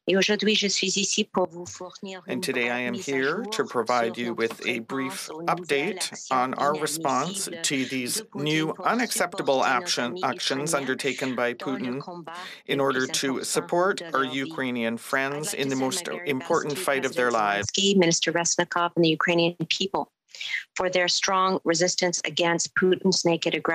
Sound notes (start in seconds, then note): 6.7 speaking French